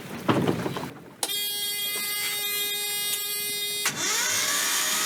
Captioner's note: engine alarm; engine starter noise